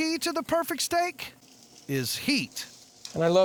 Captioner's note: sizzling sound